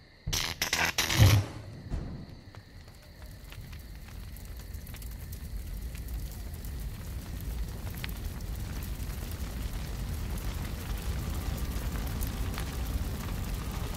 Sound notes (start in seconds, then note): 0.2 brzzzzt; 3.3 fire cracking